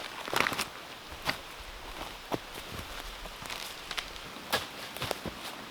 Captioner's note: brush and branches rustling